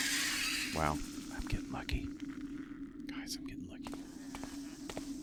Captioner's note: whispers